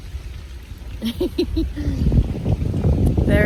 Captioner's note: giggles at large bite